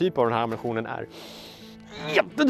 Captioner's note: inhales violently